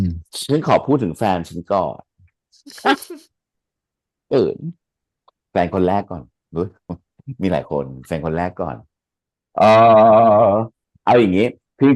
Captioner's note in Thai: เสียงหัวเราะ